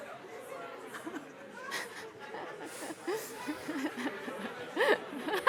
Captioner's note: laughter